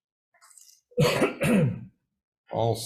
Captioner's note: Chair clears throat